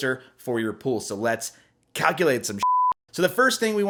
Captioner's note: beep